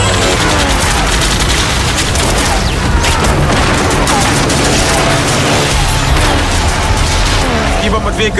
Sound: gunfire

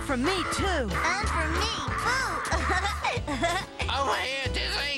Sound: laughing

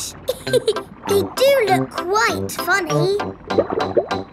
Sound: laughs

